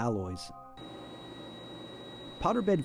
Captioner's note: machine sounds